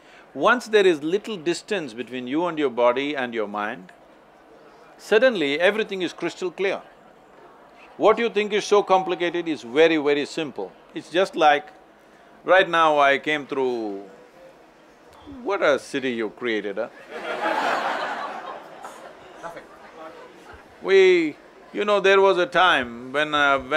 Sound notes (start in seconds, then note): 17.0 laughter